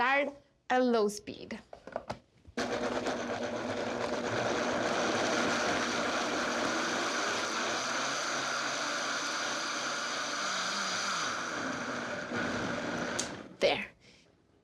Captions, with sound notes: I'm gonna start at low speed. (blender whirs)